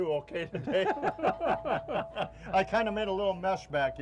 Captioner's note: laughing